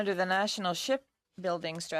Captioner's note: speaking in French